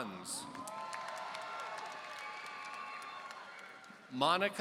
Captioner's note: audience cheering